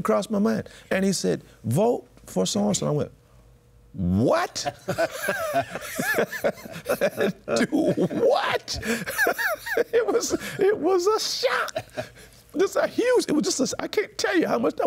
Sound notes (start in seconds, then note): 4.6 laughter; 7.8 laughs